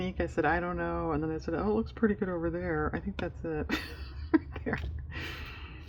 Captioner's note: laughs